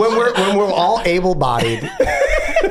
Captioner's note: gang laughing